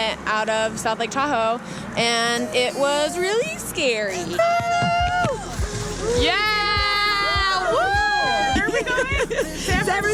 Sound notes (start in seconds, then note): 4.4 screams; 7.2 cheering